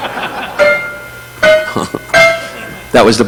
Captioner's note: audience laughing; upbeat piano notes; Don chuckling